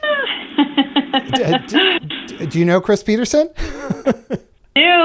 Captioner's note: laugther